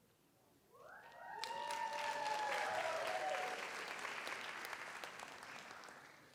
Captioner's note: audience cheers; audience applauds